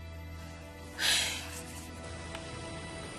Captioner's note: sighs heavily